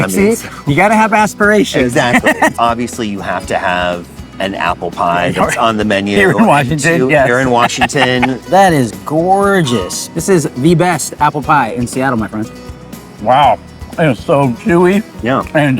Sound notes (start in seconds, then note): 6.9 chuckles